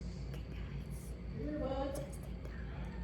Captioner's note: me, whispering